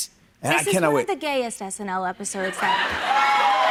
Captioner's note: audience cheers